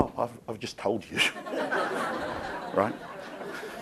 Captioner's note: crowd laughing